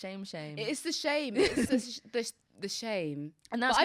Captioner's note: laughs